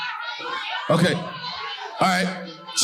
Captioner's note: people shouting in agreement